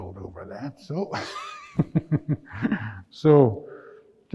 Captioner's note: laughs